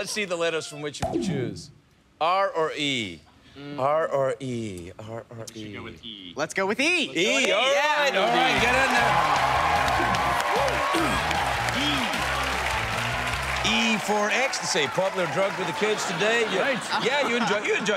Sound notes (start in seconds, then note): 9.1 cheers and applause; 10.2 clears throat